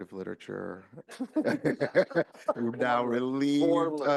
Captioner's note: laughing